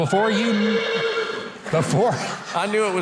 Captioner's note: horse whinnying